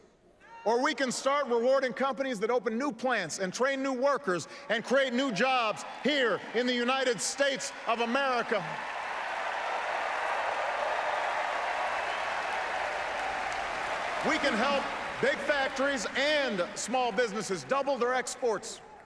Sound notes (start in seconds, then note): 12.3 applause